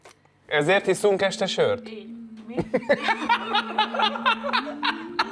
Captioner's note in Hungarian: nevetés